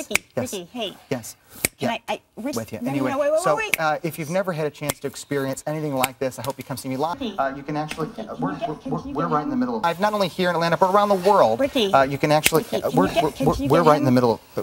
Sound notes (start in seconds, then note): 0.0 finger snap; 1.5 finger snap; 3.7 finger snap